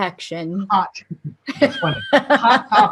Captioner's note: laughter